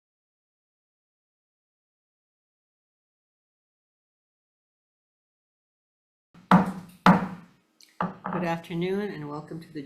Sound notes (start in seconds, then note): 6.4 mallet thudding